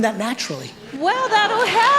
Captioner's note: audience applauding